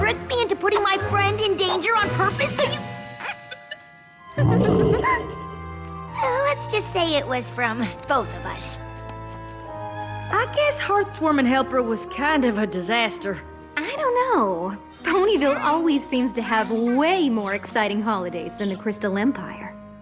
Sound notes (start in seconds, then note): 3.2 giggles